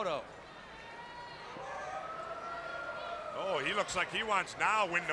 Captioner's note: crowd chatter